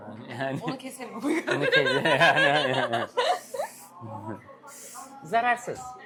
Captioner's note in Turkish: kahkaha